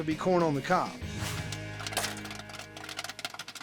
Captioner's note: pop